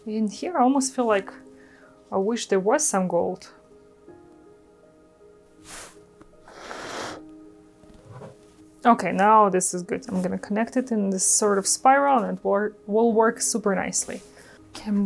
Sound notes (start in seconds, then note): 6.4 blows